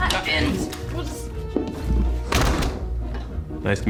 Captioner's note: door opens, closes